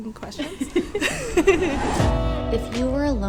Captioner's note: people giggle